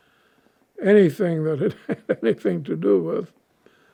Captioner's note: laughing